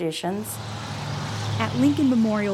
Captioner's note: car driving